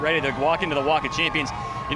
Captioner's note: cheering